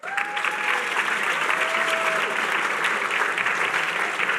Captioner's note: applause